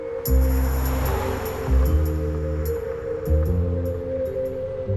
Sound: cars passing

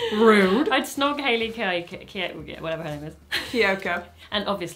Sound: she stammers

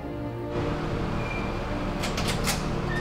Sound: urban sounds

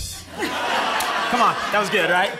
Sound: laughter

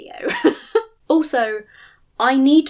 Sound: chuckles

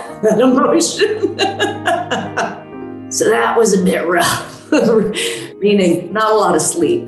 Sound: laughs

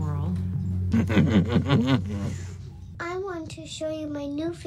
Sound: maniacal laughter

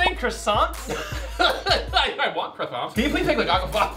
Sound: laughs

